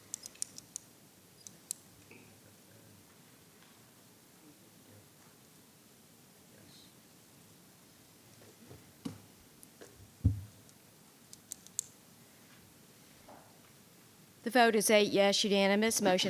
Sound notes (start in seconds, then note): 0.1 clicking; 10.2 thumping; 11.3 pen clicking